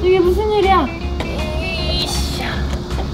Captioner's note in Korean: 애쓰는 소리